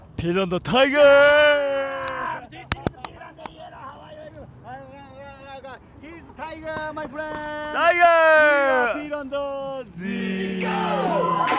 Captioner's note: audience chanting